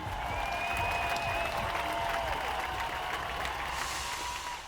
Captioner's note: cheering and applause